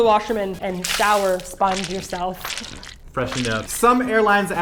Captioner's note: splash, splash, splash, splash